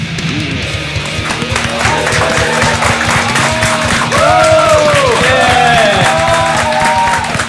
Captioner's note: applause